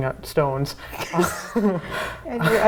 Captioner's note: joyful laughing